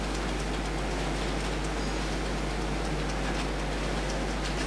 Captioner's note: tapping fingers